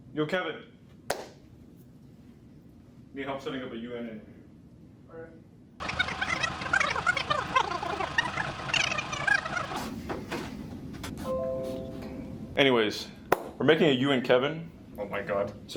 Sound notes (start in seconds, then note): 4.3 fast forward sound